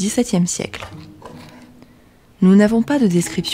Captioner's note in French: Bruit de coulisse de la boîte à système